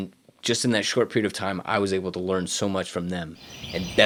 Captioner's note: birds singing